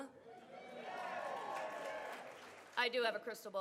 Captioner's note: audience cheers